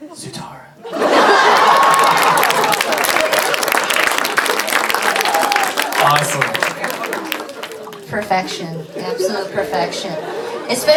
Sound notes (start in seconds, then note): 0.9 audience cheering